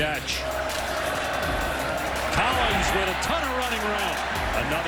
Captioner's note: cheering